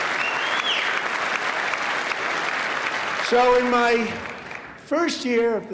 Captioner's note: applause